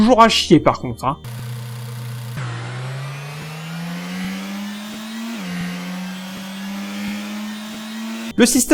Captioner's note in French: son de moteur dans le jeu